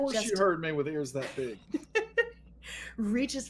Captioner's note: laughing